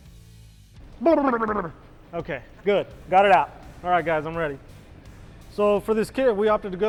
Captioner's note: babbles